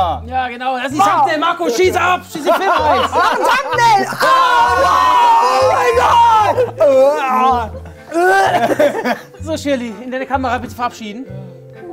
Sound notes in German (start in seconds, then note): 6.7 Gespieltes Würgen